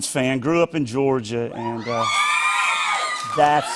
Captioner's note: cheers